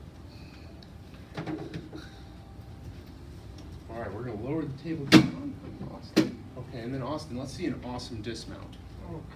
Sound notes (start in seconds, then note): 1.4 tool bumps down on surface; 5.9 table thumps